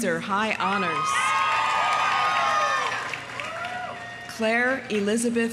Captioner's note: audience cheering; audience applauding